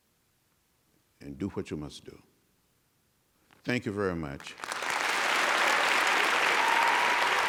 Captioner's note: applause